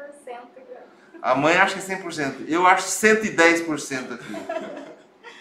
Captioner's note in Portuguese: risos